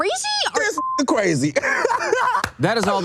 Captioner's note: laughs